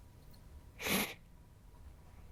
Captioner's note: sniffs